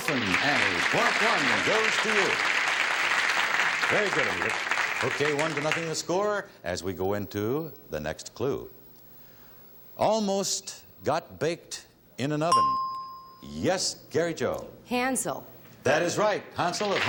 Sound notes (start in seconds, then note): 12.5 ding